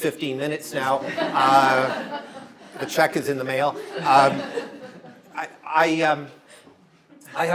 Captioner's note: audience laughter